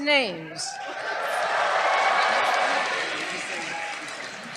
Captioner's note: cheers